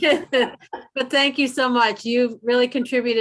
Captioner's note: laughter